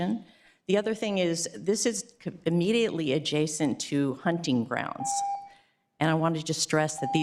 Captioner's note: beep